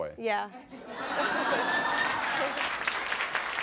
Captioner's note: audience laughing and applauding